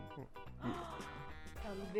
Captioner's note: gasps